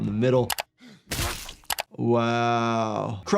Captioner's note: foot smashes